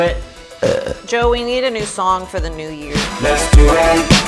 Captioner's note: burp